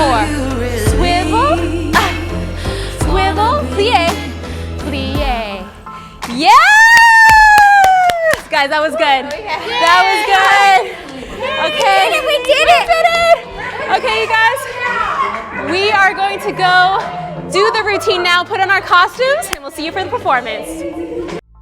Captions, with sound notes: swivel, swivel, plie, plie. Yeah! (claps) Guys, that was good, that was good! Okay. - We did it! - We did it! Okay you guys, we are going to go do the routine now, put on our costumes and we'll see you for the performance.